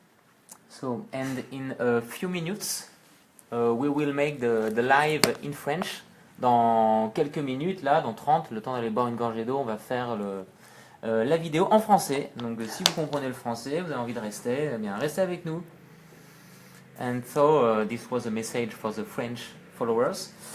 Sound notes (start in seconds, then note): 7.0 speaks in French